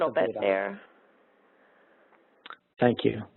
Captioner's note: pause